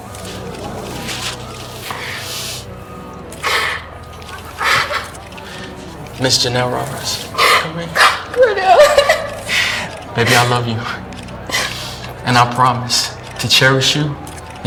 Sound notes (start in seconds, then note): 3.6 Ja'nelle crying; 8.1 laughing